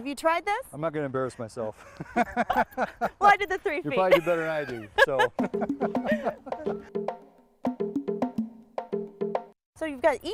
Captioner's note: laughter